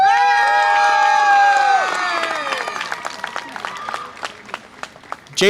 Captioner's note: audience applause and cheer